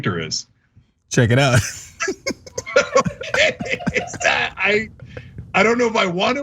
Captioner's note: laugh